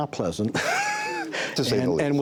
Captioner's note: laughter